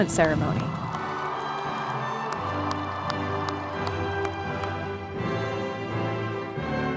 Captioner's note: audience clapping; air whooshes